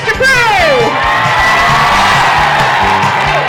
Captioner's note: crowd cheering